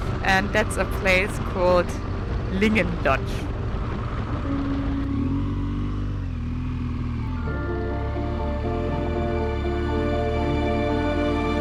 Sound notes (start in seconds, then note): 4.5 engine rumbling; 7.2 light music